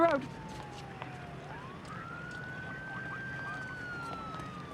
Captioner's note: siren wails